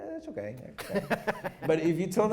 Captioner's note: laughs